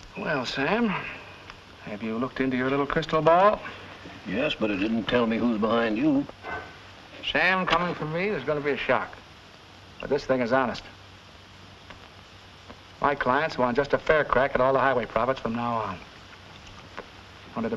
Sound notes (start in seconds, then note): none